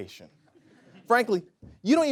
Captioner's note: audience laughs